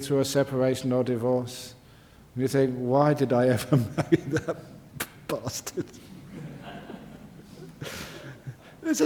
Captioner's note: laughter